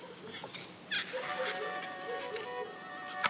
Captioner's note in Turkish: Telefon çalma sesi